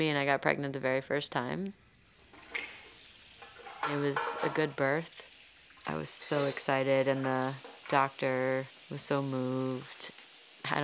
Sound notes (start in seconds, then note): 2.2 water running; 3.4 dishes clattering